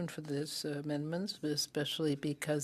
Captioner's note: speaking French